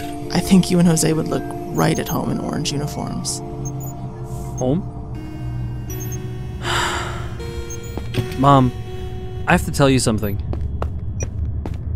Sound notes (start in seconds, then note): 6.6 sighs